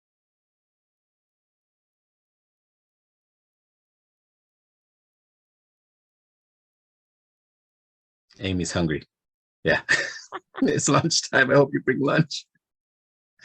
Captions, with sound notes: Amy's hungry. Yeah, (chuckles) it's lunchtime. I hope you bring lunch.